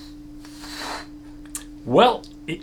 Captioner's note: blows air